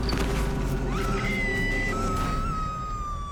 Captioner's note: screams